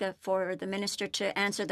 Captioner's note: speaking FRENCH